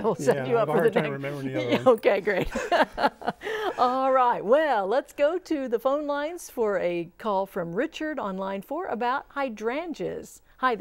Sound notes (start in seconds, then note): 2.3 laughing